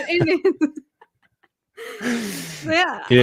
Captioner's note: laughter